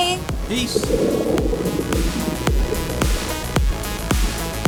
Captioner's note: water bubbling